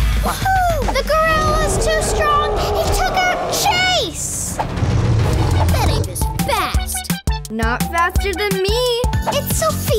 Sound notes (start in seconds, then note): 6.7 gorilla growling